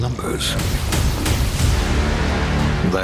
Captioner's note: dramatic sound